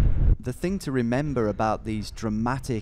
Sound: voiceover

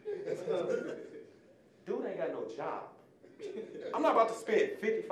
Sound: audience laughing

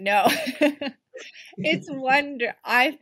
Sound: laughs

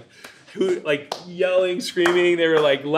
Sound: clapping

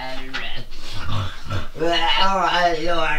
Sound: snoring becomes demonic tongues; snarling loudly

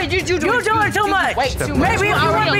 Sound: mocking

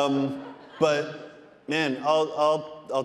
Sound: audience laughing

